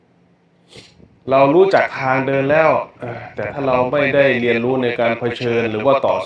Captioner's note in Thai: เสียงสูดหายใจ